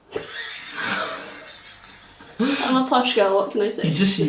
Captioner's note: laughs